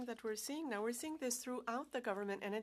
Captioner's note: speaking French